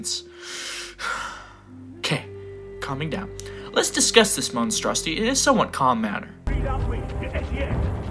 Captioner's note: breathe heavily